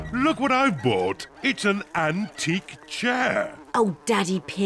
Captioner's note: oinks; flies buzzing